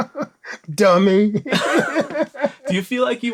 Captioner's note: laughter